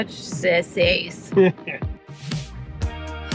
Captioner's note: upbeat music; laughing